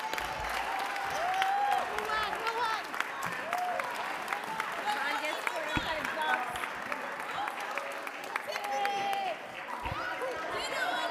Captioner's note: applause